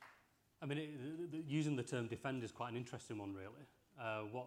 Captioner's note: applause